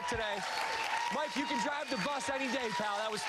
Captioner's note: cheers and applause